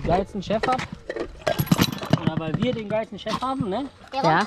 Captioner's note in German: klirr